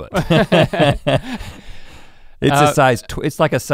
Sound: both chuckle

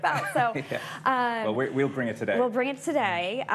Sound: chuckling

